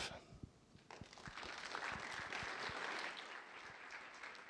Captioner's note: applause